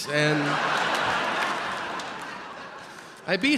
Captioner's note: audience laughing